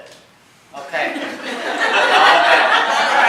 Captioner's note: laughter